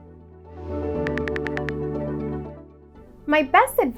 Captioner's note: keyboard clicks